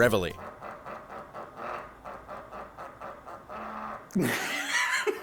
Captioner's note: vibration; laughing